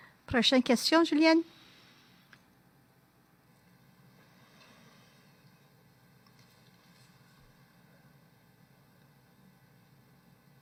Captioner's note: speaking French